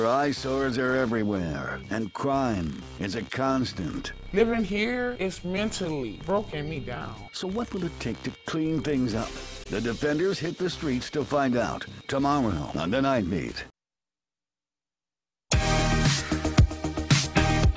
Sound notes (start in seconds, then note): none